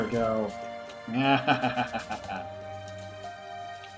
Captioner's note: laughter